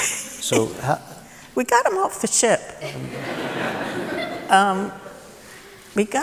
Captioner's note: laughter